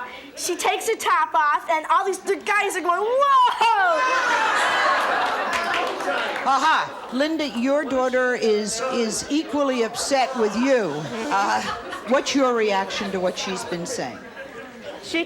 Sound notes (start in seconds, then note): 3.8 audience gasps